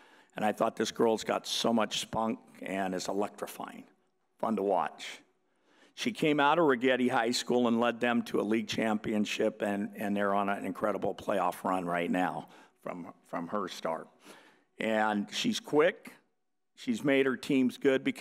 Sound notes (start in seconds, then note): none